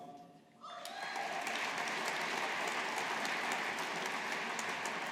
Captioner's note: audience applauding